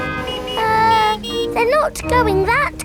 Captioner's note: horns honking